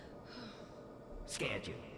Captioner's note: Whisper sighs